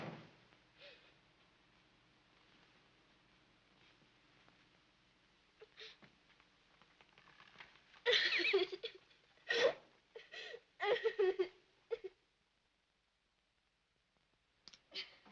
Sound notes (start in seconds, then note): 0.2 door clicks closed; 9.4 sobbing